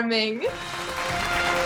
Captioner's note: music and applause